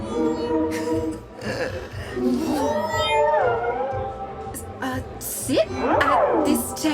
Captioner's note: the musical tone emanates from the aliens again as if to say “sit here.”